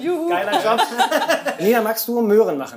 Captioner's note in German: Lachen